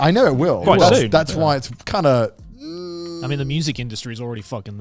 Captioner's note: wailing